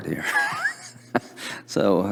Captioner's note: laughter